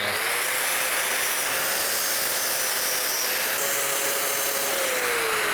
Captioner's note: drill whirring